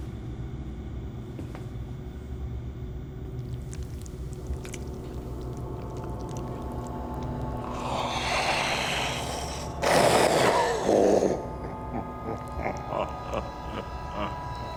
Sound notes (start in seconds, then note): 1.5 suspenseful music; 8.0 grunts, growls